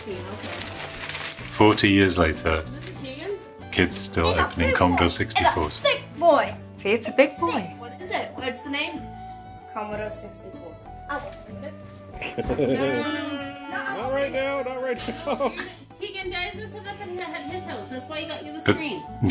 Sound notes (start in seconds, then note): 14.9 chuckles